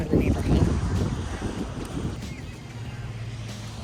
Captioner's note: air whooshing